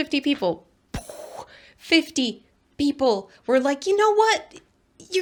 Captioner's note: gremlin brains exploding noises